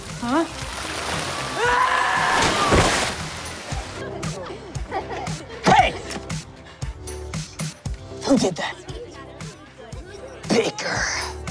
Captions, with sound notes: Huh? [screaming] [laughing] Hey! Who did that? Baker!